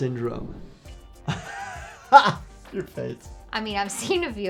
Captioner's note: chuckles